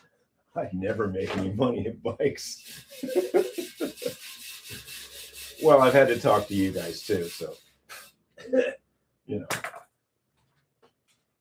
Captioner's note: laughter